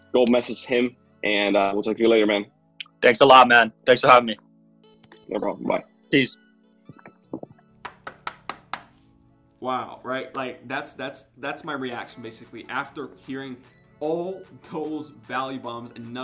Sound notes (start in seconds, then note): 7.9 smacks